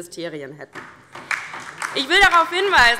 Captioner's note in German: Beifall DIE LINKE